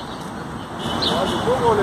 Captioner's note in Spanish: Car horns